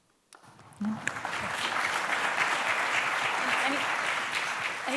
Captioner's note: applause